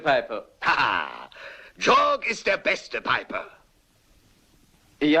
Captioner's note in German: laughs